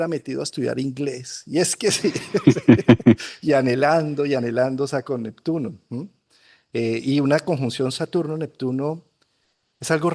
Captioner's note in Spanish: risas